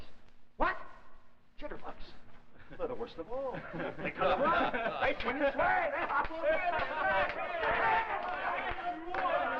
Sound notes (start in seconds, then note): 0.2 Chang's voice; 3.6 snickers; 4.1 clapping, singing, everyone talking at once